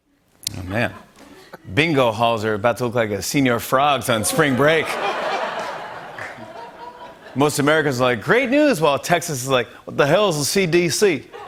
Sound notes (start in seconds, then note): 4.2 laughter